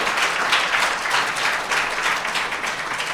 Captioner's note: applause